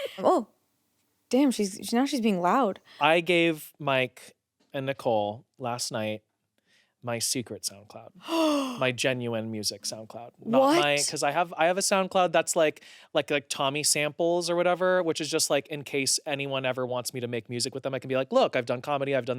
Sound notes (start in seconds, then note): 8.2 gasps